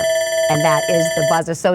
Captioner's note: alarm buzzer rings